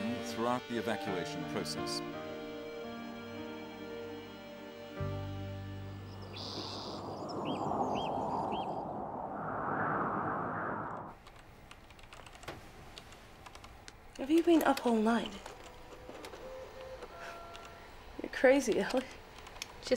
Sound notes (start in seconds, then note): 5.7 birds chirping; 8.0 wind howling